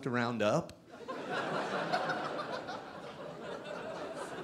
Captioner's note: audience laughing